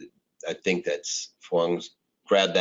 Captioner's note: speaking in foreign language